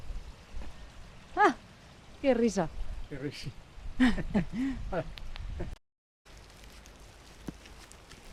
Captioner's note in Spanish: risas